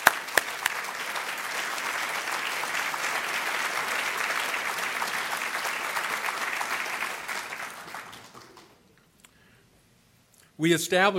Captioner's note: applause